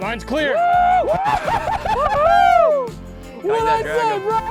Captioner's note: both cheer